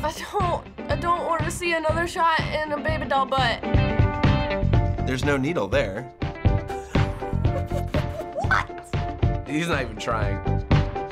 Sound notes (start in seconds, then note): 6.8 snickering